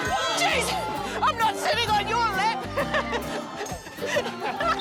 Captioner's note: laughs